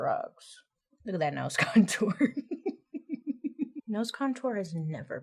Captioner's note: giggling